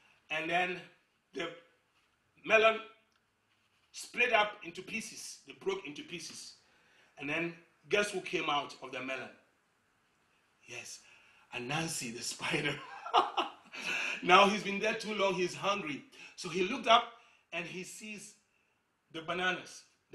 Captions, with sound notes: And then the melon split up into pieces. It broke into pieces. And then, guess what came out of the melon? Yes. Anansi the Spider. [Chuckling] Now he's been there too long. He's hungry. So he looked up, and he sees the bananas,